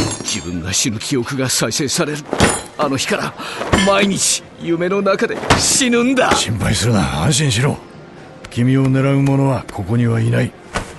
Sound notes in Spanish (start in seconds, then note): 2.3 Cris golpea la mesa; 5.4 Cris golpea la mesa